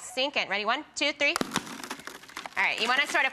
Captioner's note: balloon pops